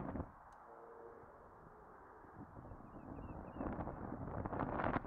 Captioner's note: wind blowing